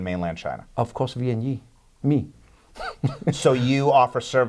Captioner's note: laughs